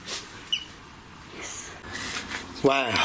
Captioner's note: beep